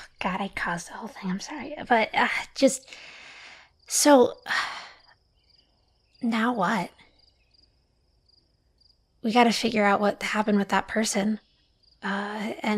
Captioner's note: sighs